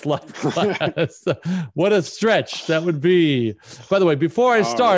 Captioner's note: laughs